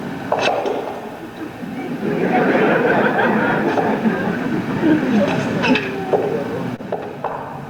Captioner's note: audience laughing